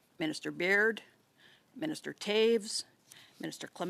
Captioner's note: speaking in French